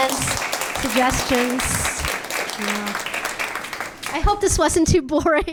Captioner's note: audience clapping